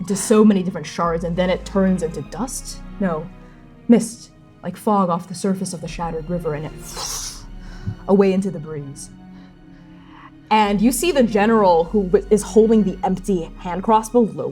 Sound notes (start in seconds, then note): 6.9 fwooshing; 7.4 shallow panting; 7.7 fwooshing